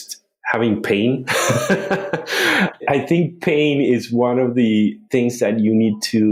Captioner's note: laughs